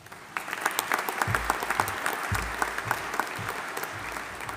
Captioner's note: audience applauding